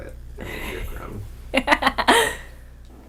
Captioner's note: laughing